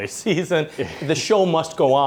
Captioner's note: laughing